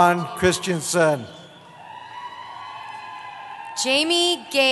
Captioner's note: cheering